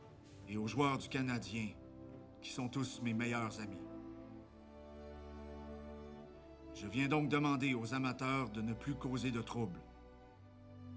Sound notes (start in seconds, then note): none